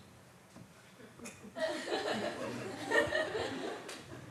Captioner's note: laughter